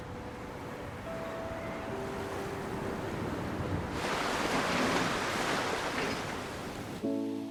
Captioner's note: wind blowing; waves lapping beach